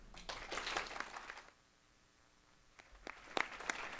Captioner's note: crowd applauding